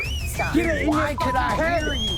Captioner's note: whistling